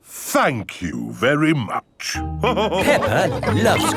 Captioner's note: all laughing